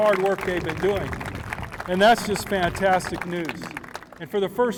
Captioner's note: applause